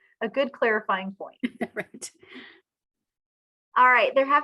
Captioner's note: laughs